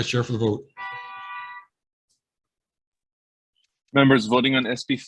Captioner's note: horn honking